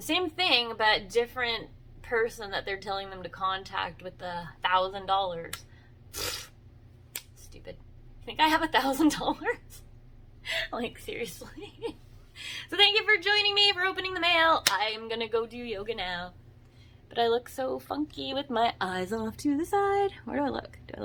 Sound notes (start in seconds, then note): 9.6 laughs; 16.3 sing-songy